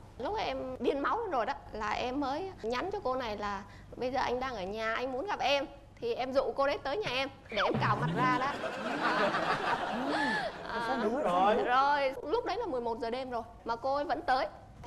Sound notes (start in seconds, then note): 7.7 laughing